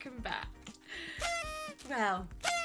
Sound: party horn sound

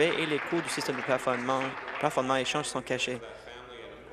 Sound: applause

